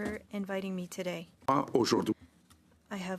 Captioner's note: speaking French